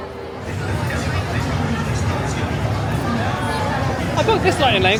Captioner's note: Speedway hisses, whistles, and rumbles